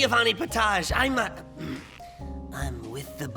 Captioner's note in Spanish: Se carraspea